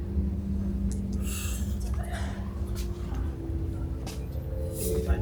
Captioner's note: taking a deep breath